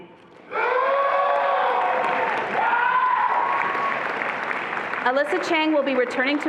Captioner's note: attendees applauding and cheering